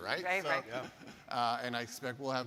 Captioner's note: laughs